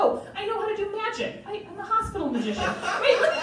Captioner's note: crowd Laughing